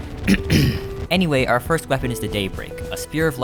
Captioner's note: cough